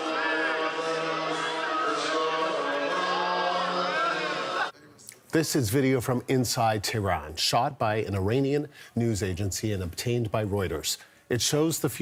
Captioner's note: crowd noise